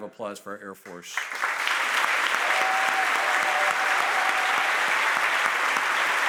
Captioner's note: audience applauds and cheers